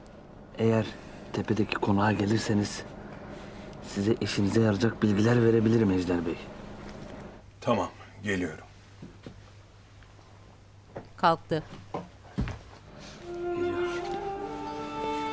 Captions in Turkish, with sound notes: Eğer tepedeki konağa gelirseniz... ...size, işinize yarayacak bilgiler verebilirim Ejder Bey. Tamam geliyorum. (Ayak sesi) Geliyor.